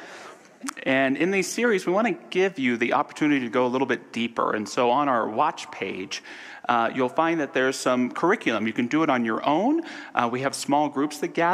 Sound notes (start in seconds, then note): none